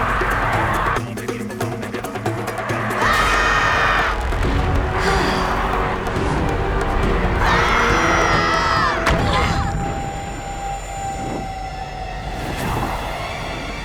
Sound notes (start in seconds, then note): 2.6 screaming; 4.8 sighing; 7.3 screaming